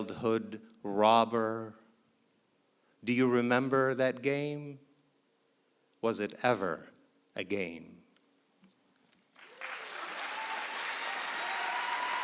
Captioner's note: applause